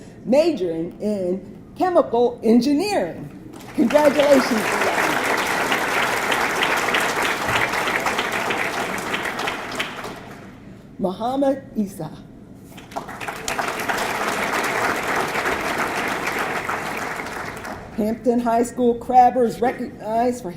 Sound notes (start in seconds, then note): 5.2 audience clapping; 12.7 audience clapping